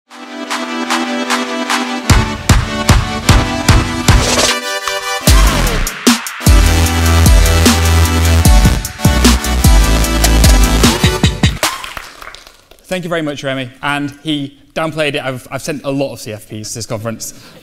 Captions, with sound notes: (energetic music) (audience clapping) - Thank you very much, Remy, and he downplayed it. I've sent a lot of CFPs to this conference.